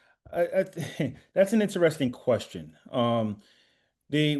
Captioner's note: laughs